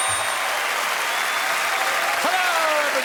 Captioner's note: cheering and applause